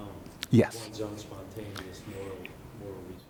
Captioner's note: voiceover